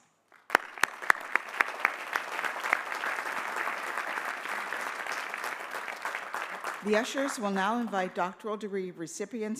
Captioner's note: applause